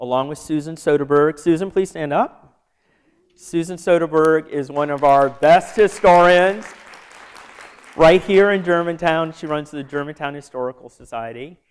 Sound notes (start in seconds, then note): 4.6 applause